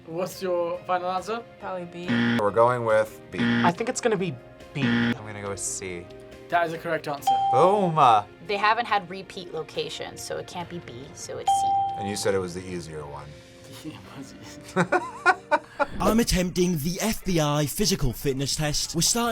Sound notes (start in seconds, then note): 3.3 buzzer rings; 7.3 bell rings; 14.6 both laugh